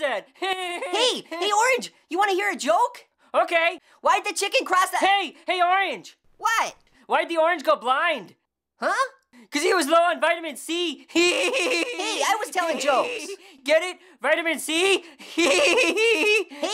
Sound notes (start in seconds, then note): 11.2 guffaws; 15.4 guffawing